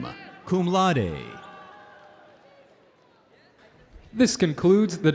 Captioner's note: audience cheering